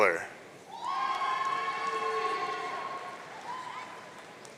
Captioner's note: audience cheering